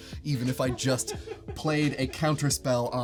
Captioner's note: laughs